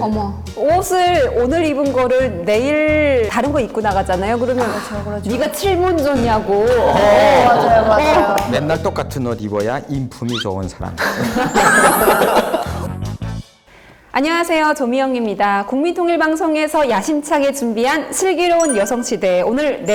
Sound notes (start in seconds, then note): 11.0 all laughing